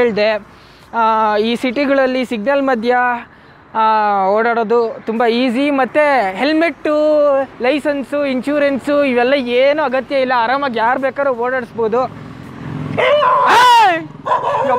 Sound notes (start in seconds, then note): 13.0 screms; 14.2 dog barks